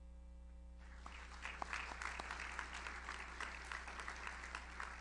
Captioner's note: audience applauds